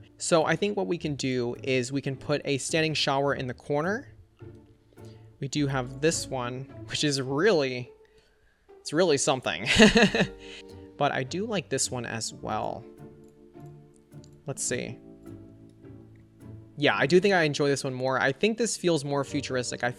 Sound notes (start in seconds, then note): 9.7 laughs